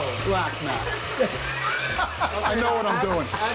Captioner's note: laughs